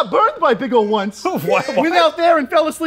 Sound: chuckles

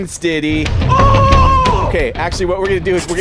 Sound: yells

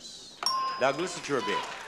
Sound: bell chimes

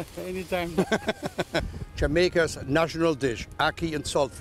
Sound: laughter

